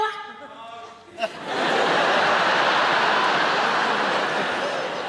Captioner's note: audience laughing